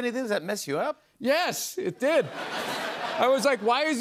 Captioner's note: laughter